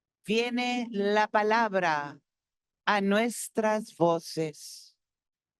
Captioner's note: speaking Spanish continues